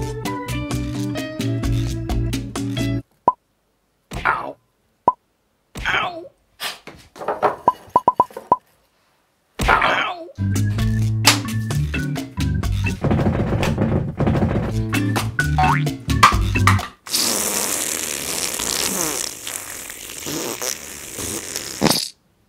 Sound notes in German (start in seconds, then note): 0.0 Bossa-Nova-Musik; 3.1 Ploppen, gefolgt von Aufprall; 6.3 Stöhnen; 7.9 Vielfaches Ploppen; 9.6 Lauter Aufprall, Au-Schrei; 10.4 Bossa-Nova-Musik; 13.1 Percussion; 14.7 Bossa-Nova-Musik; 17.0 Lautes Furzgeräusch